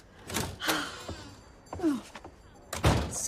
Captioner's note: sighs